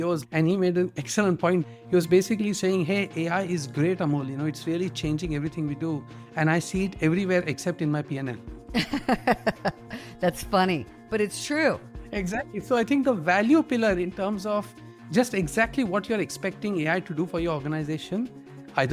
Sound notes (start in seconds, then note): 8.8 laughs